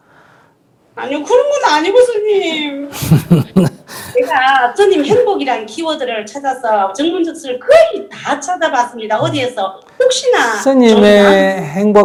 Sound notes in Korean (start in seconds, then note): 0.9 질문자 울먹이며; 2.9 스님 웃음